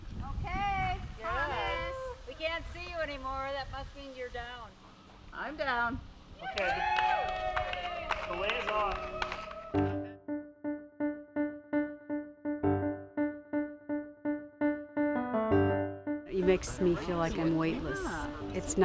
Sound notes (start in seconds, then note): 6.4 women cheer; 10.0 upbeat music